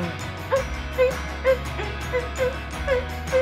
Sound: humming

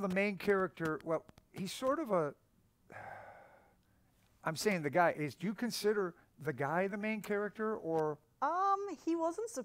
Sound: sighs

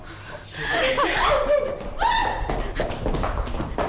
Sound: yelps

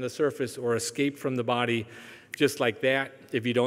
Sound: snaps fingers

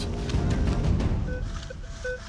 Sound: beeping

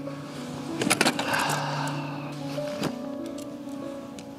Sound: sighs

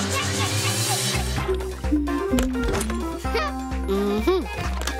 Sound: humming

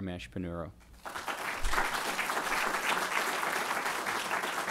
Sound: audience applauding

